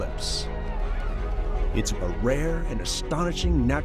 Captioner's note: people talking in background